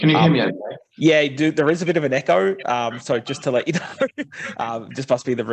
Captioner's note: laughs